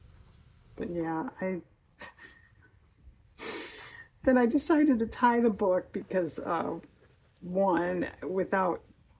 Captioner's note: laughs